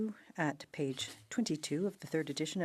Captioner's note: speaking French